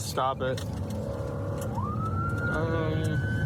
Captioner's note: siren blaring